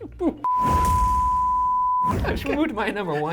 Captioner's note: beep